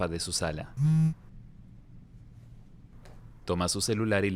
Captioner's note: celular vibra